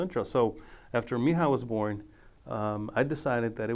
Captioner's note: speaking foreign language